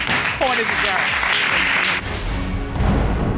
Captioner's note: audience applauding